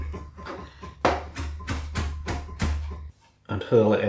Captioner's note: chop chop chop